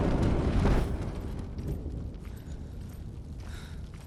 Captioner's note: thunder